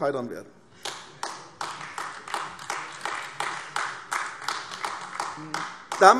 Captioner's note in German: Beifall AfD